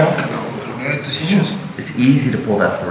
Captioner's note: speaking in a foreign language